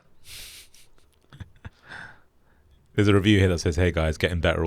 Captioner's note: laughs